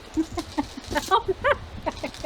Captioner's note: laughter